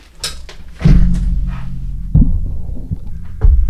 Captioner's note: clunk